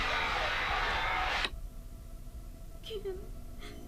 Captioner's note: switch clicking off